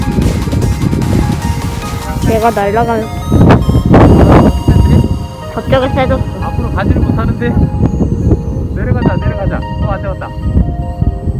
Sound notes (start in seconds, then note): 5.7 the wind